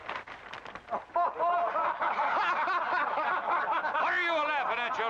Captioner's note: paper rustling; men laugh